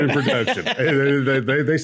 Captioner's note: laughs